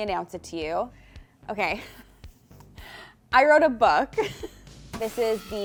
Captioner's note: chuckles